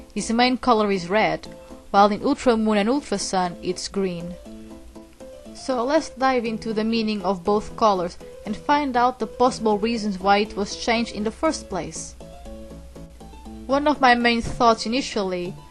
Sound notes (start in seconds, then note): none